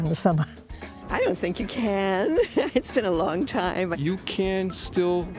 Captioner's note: laughing; laughing